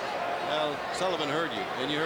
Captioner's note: crowd chatter